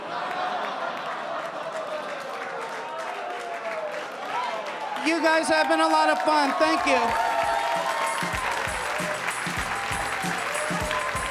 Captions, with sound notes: (audience laughing) You guys have been a lot of fun, thank you. (energetic music)